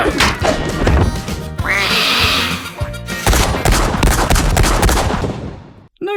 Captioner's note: smack, angry quack hiss, hits wall, 6 rapid gunshots